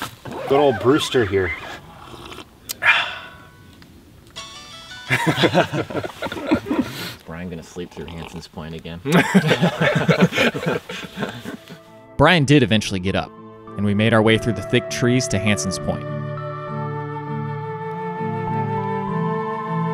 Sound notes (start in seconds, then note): 2.6 satisfied sigh; 4.3 cheery ringtone plays; 5.0 all laugh